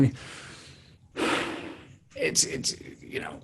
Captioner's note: sighs